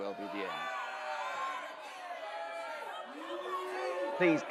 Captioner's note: crowd booing and shouting